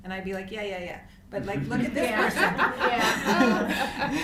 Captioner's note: laughter